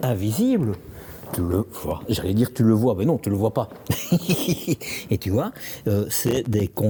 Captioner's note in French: rires